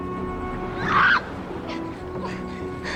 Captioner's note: silly screaming